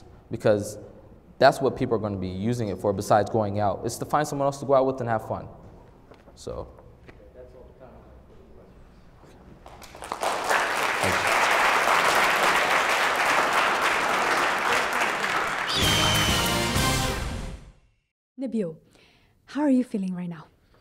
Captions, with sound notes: because that's what people are going to be using it for besides going out. It's to find someone else to go out with and have fun. >> That's all the time we have for questions. [ Applause ] >>Nebile, how are you feeling right now?